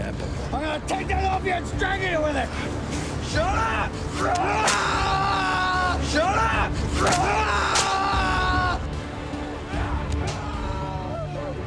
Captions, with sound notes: I'm gonna take that off you and strangle you with it! Shut up! [screams] Shut up! [screams]